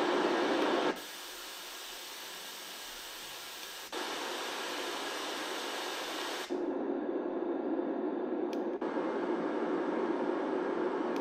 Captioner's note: white noise